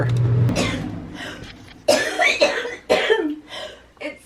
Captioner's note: coughing